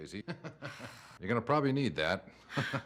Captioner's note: laughs; laughs